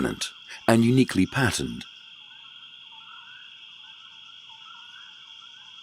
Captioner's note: crickets chirping